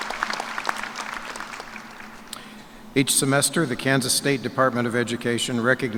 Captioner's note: cheers and applause